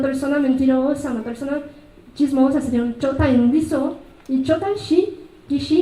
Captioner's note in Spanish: habla en mazateco